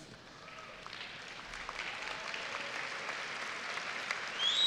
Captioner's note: audience applauding